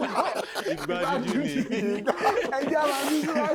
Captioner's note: everyone laughs